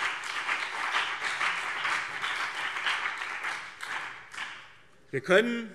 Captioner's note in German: Beifall BÜNDNIS 90/DIE GRÜNEN und CDU